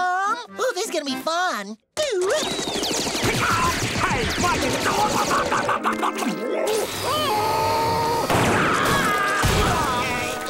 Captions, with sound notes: Ooh, this is gonna be fun. Hey, what is going- [groaning] [popping, screaming] [thudding]